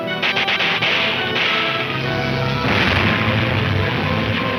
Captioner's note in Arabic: البنادق تطلق النار بشكل عدواني